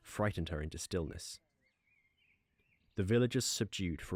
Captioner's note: villagers silence